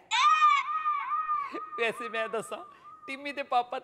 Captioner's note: Tanya and Meera laughing hysterically